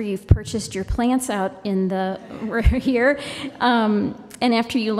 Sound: laughter

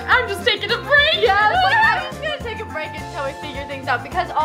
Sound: laughs

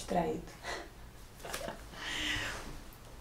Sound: laugh

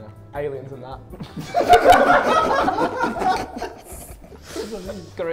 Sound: Sidemen laugh

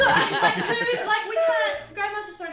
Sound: laugh

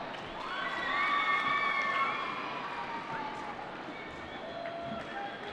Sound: applause

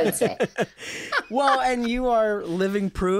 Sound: laughter

